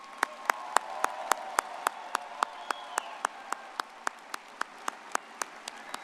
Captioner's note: everyone applauding and cheering